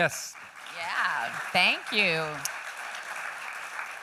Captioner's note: applause